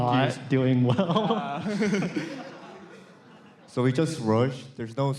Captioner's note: laughter